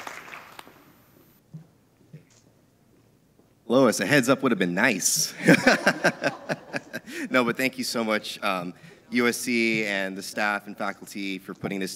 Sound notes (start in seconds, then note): 5.3 laughs